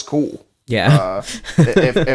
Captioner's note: laughs